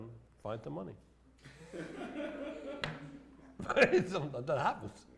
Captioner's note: laughter